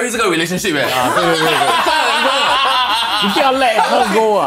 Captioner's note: laughs